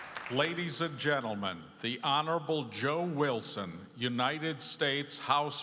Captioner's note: applause